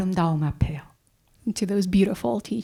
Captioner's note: speaking in Korean